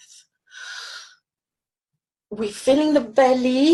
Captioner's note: inhales deeply